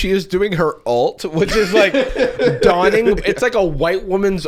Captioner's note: laughing